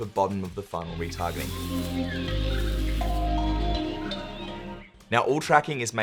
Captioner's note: relaxing music; nature sounds